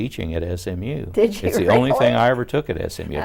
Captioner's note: laughing